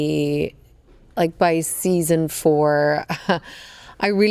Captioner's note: chuckles